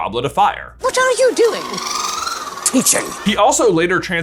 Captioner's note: ferret chortling